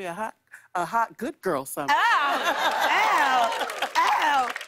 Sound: laughter and applause

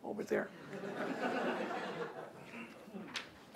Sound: laughter

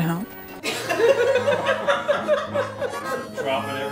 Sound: laughter

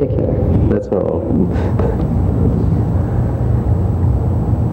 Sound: laughs

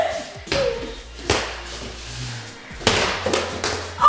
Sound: ball bouncing

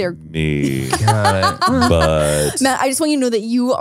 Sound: laughs

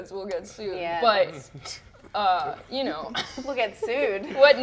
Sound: laughs

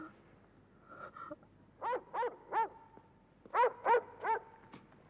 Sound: barking

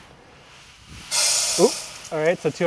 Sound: grains clinking in metal

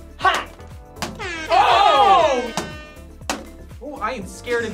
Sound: air horns blaring

